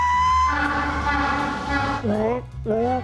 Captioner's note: attempting the braying sound; african penguin braying